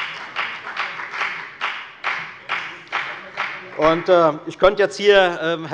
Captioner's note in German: Beifall bei der FDP